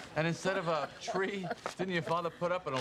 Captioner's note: laughs